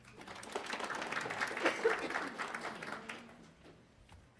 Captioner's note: attendees applauding